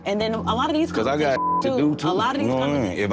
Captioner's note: beep